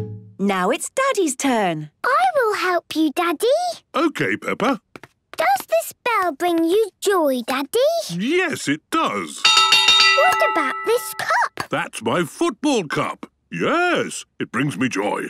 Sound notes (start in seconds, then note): 9.4 clanging